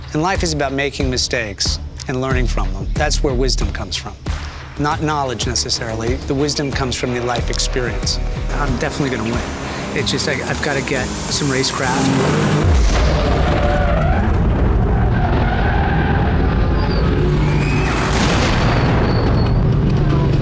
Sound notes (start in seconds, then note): 13.5 tires screeching; 17.0 dramatic music